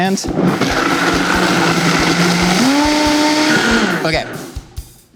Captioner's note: blender grinding